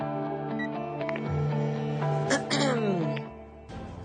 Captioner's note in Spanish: Carraspea